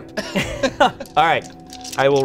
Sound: they laugh

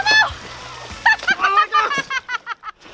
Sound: laughing

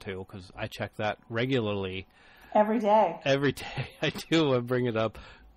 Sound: DJ laughs

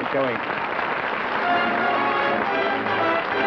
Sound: applause

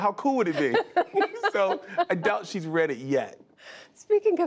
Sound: laughter

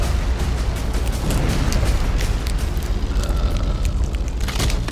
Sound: bones cracking

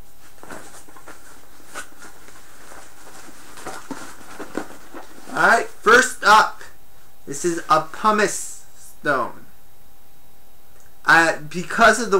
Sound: items rattle around in bag

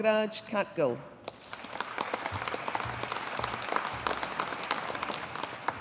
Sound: audience applauding

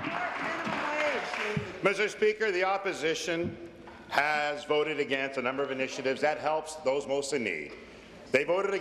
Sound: applause

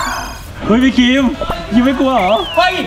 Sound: pat

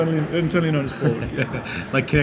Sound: laughing

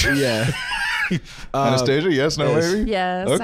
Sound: laughing

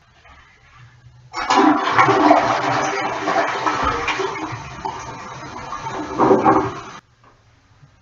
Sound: toilet flushed

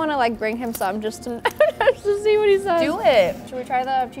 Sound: chuckles

